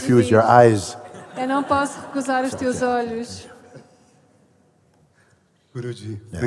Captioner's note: laughter